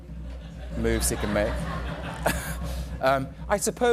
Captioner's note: drum roll; chuckles